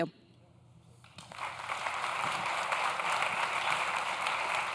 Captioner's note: audience claps